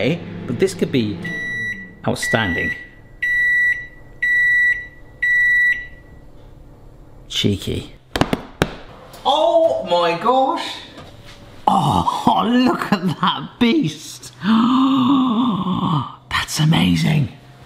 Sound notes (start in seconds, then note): 2.8 microwave beeping; 8.1 gloves patting; 14.4 gasping